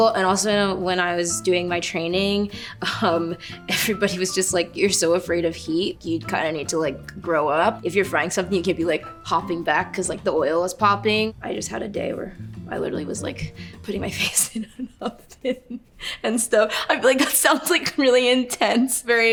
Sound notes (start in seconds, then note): 14.1 laughs